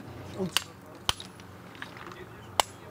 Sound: hammering

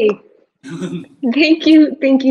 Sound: giggles

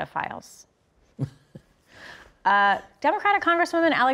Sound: Dreyfuss chuckling

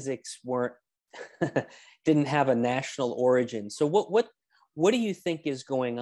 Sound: laughs

